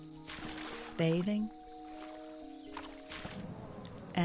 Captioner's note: water splashing